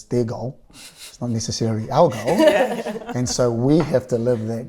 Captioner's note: laughter